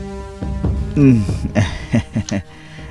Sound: chuckles

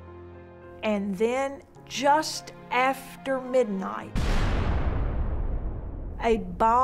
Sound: bomb explodes

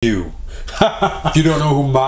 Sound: laughs

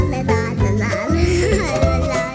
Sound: chuckles

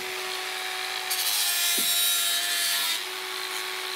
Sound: screeching sawing noise

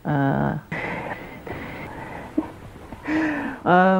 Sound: happy breathing

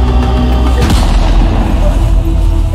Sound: gunshot

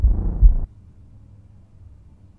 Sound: silence

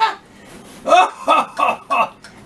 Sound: ORANGE BIRD laughs

